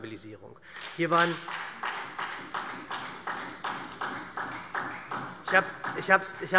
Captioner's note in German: Beifall SPD